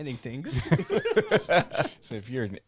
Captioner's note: laughing